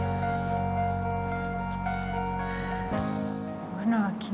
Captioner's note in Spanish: exhala